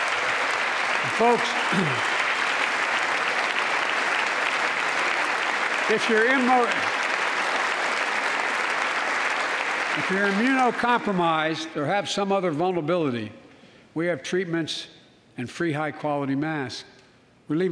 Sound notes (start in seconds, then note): 4.2 applause